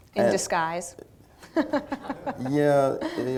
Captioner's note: laughter